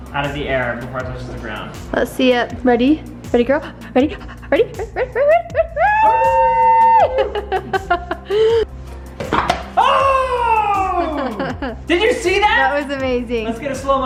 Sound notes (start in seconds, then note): 3.6 panting; 5.9 howling; 7.6 laughs